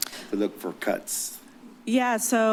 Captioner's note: none